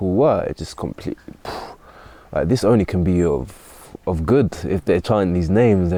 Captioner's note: exhales